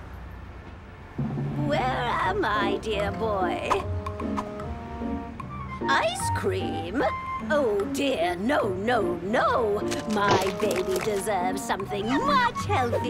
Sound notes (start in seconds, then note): none